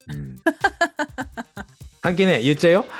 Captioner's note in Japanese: 笑い